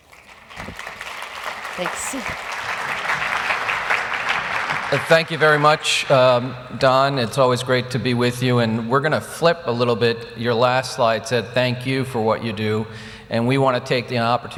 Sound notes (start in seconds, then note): 4.8 applause